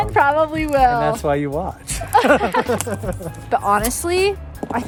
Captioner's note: laughing